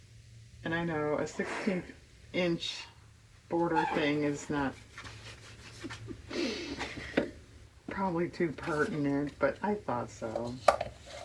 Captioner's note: laughs